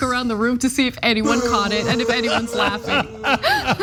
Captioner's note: laugh